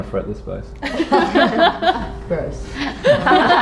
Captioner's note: all laugh